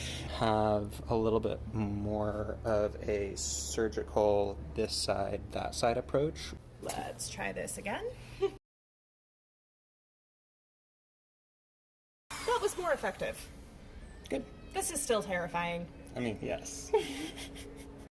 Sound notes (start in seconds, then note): 12.3 whirring winds down; 16.9 laughs